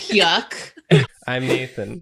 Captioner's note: distraught; giggling; swish